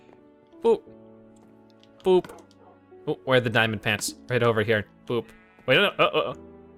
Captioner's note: laughs